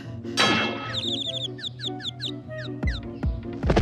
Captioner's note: birds chirping